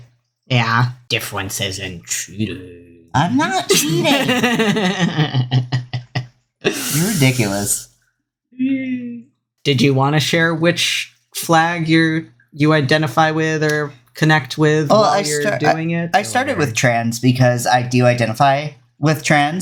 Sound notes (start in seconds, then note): 3.2 laughs